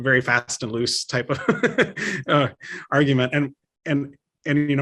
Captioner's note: laughs